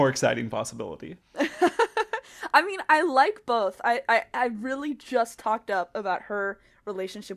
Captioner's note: laughs